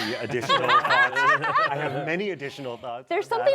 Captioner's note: laughter